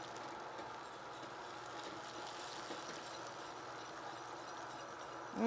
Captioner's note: whisk whirring